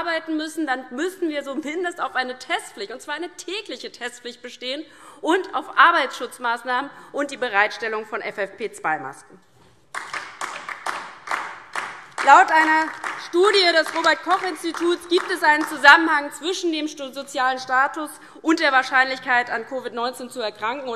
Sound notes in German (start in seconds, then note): 9.9 Beifall DIE LINKE